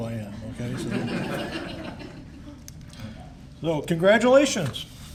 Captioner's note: laughter